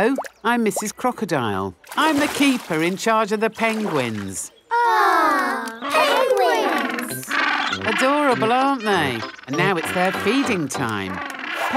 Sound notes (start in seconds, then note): 4.8 penguins chatter